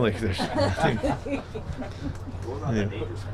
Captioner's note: people laughing